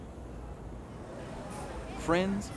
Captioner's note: people murmuring